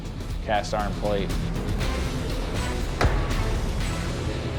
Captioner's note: intense music plays; smacks